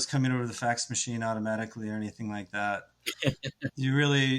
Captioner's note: laughs